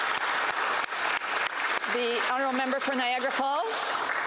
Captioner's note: applause